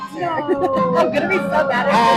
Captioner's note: faintly speaks; chuckles